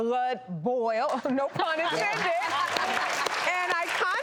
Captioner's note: laughing and applauding